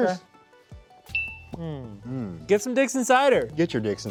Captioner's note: glasses tinkling